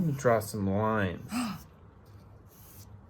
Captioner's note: gasp